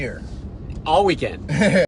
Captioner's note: hearty laughter